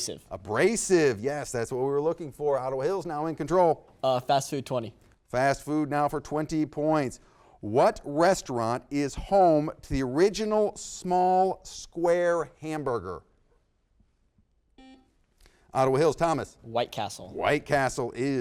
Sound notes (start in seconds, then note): 14.8 buzzer beeps